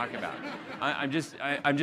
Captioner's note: audience laughing